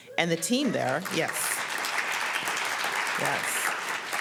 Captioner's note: applause